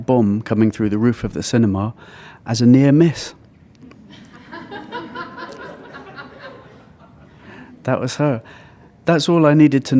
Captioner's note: laughter